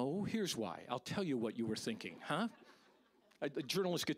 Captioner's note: audience laughing